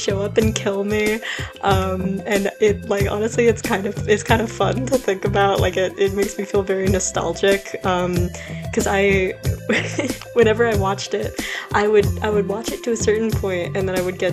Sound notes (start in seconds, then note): 9.6 laugh